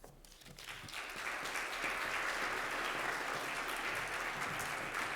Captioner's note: audience applauds